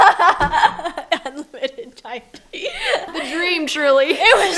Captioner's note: laughs